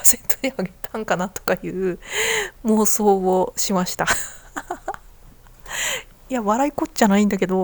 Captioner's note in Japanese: 笑い